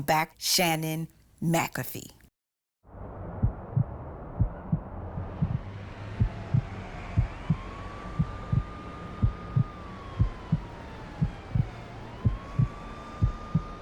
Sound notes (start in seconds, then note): 4.3 heartbeat pulsing; 6.3 sirens wailing